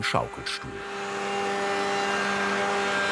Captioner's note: loud engine noise